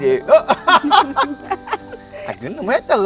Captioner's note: both laughing